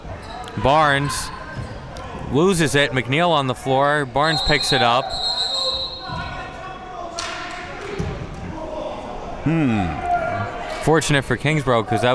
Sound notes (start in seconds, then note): 4.2 whistle blowing; 5.5 spectators chattering